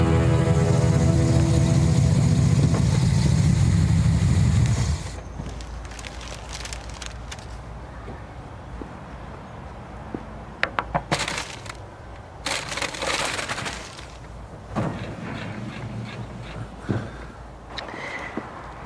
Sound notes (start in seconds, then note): 0.0 car engine; 5.2 paper rustling; 10.7 knocking